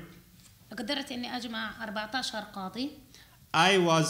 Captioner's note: speaking arabic